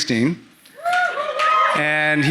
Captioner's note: audience cheering